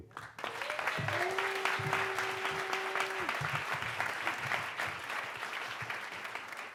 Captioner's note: audience applauds; audience cheers